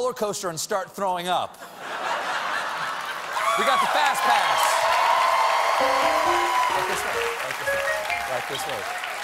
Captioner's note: laughter; piano riff